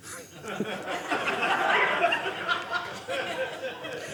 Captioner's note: audience laughing